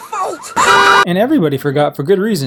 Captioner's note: car alarm